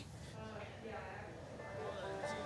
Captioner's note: indistinct chatter